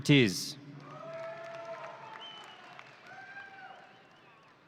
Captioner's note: audience cheering